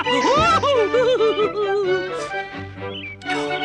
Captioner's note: laughing continues